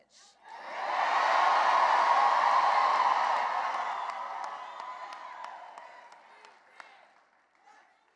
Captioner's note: cheering and applause